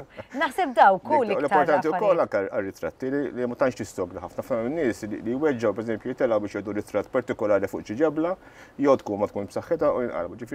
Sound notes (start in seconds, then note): none